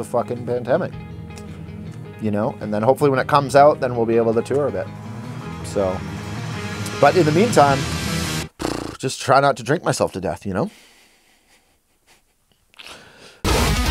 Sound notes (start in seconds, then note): 8.2 blows raspberry; 12.2 laughs